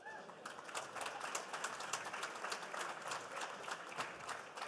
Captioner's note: participants applauding